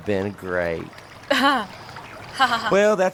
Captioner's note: laughs disingenuously